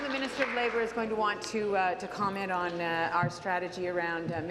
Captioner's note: applause